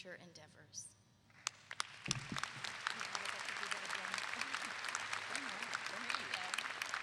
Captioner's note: clapping